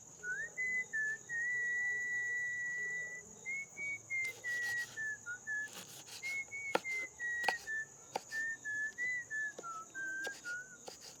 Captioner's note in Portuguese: assovio